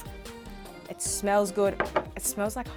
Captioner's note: plate thuds